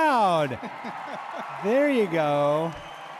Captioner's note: audience cheers